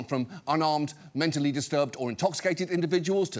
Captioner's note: none